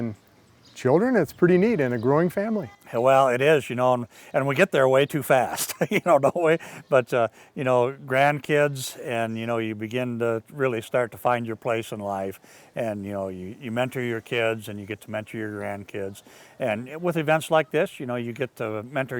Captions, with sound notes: it's pretty neat, and a growing family. - Well, it is, and we get there way too fast, (laughs) the whole way, but grandkids, and you begin to really start to find your place in life, and you mentor your kids and you get to mentor your grandkids. And with events like this, you get to mentor young children.